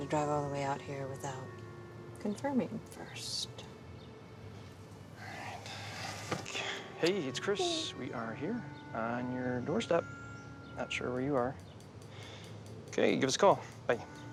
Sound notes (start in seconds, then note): 7.6 sighs